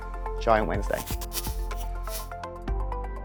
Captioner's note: electric buzzing; upbeat music